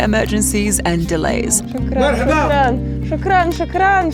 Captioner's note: speaking in foreign language; speaks in foreign language